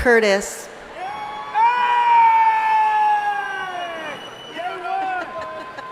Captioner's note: audience members shouting